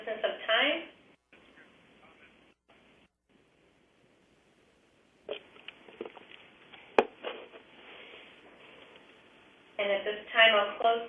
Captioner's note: pause